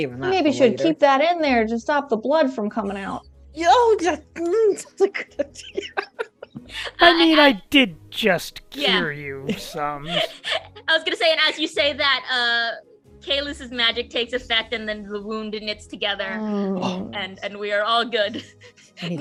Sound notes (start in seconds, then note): 5.5 Quincy laughs